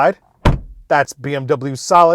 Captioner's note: car door thuds